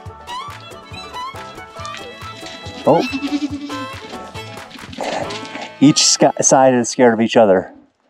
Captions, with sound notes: (goats bleating) Each side is scared of each other.